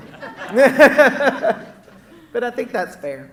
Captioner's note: laughing